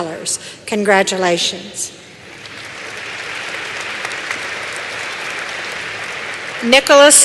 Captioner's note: applause